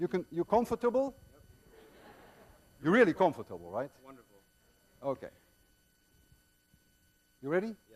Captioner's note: students laugh